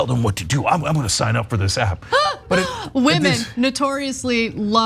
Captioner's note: laugh